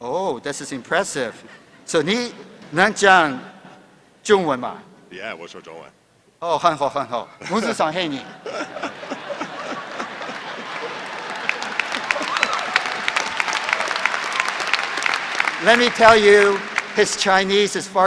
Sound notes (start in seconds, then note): 9.1 speaking Chinese; 9.5 applause